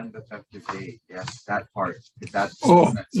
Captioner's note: voice muffling